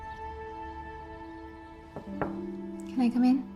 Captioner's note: soft music; door knock